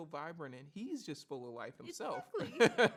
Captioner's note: laughs